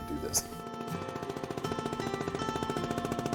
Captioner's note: motor putting